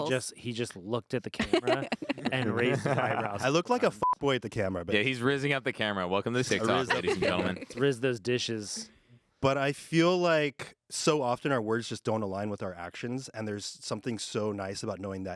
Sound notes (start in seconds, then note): 4.0 beep